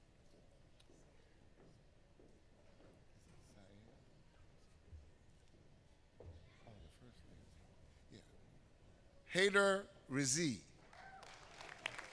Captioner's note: applause